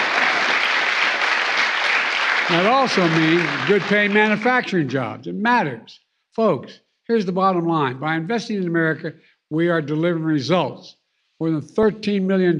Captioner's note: applause